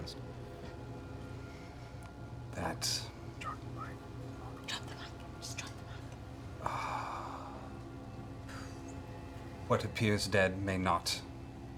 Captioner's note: sighs